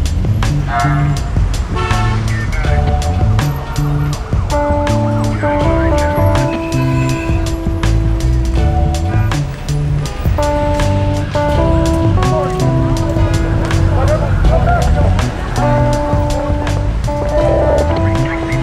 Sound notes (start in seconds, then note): 1.6 horn honking